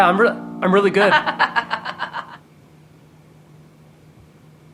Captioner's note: laughs